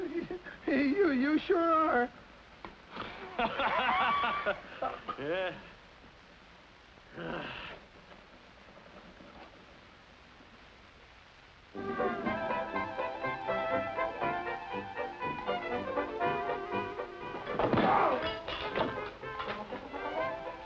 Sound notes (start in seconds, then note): 3.0 laughs